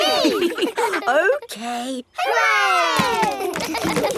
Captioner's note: chuckles; kids laughing